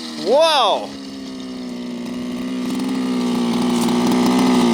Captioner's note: engine roaring